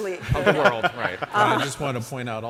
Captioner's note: audience and panelists laugh